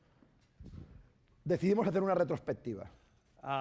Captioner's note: speaking spanish